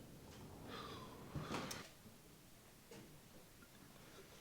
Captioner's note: Clayton sighs